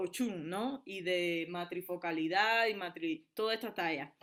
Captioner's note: speaking spanish